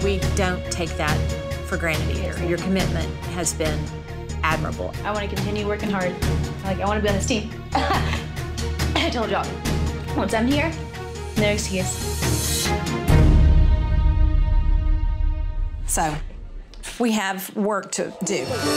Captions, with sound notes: We don't take that for granted. Your commitment has been admirable. - I want to continue working hard. Like, I wanna be on this team (laughs). I told y'all, once I'm here, no excuse. (suspenseful music) - So we have work to do.